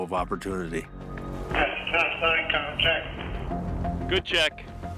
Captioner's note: speaking over radio